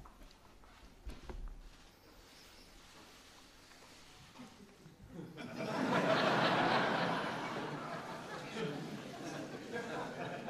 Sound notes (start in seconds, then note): 5.1 audience laughs